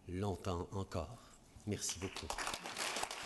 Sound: applause

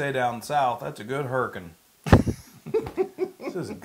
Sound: laugh

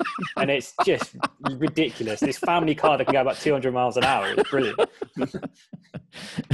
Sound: laughing

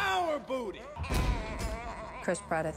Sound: groaning

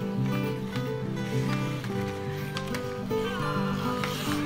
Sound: groaning

